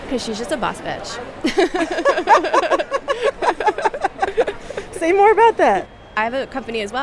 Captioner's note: laughter